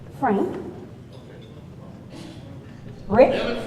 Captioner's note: man speaks off mic